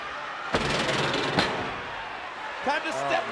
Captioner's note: steps clattering